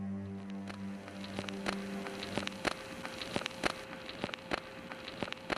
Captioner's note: recording static whirring